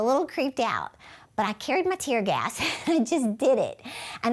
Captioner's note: chuckles